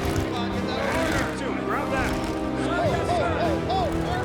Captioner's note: soldiers shouting